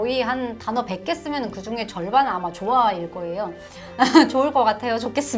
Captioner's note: laugh